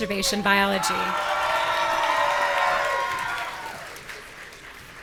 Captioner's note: audience cheering